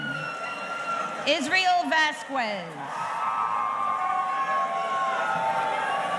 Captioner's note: audience cheering